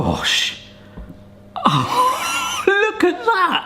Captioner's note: chuckles